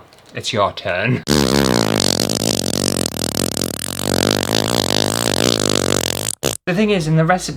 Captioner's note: massive wet far noise!